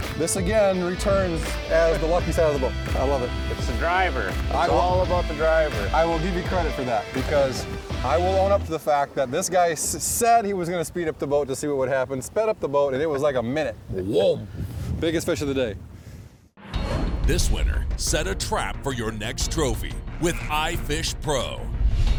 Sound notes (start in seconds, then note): 17.6 voiceover